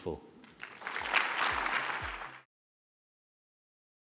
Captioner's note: applauding